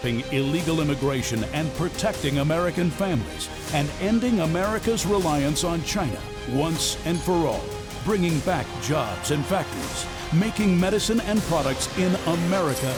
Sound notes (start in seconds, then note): none